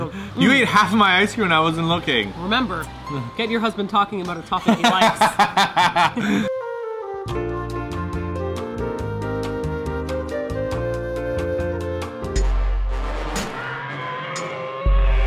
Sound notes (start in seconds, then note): 4.6 laughing loudly; 6.6 elevator music; 12.4 intense bass music, roaring